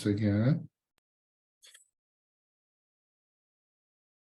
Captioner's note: mouse clicking